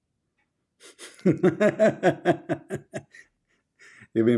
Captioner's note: Ketawa